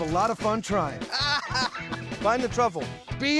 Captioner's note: laughter